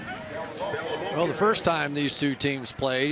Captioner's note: pa announcement